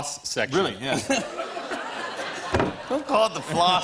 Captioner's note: laughter